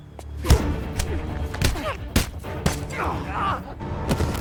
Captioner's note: dramatic music; knife smacking; man groaning